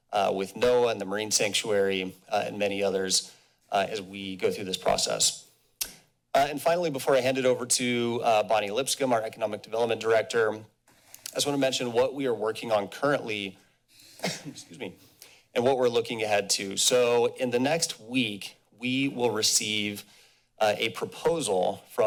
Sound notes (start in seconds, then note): 5.8 smacks lips; 14.2 coughs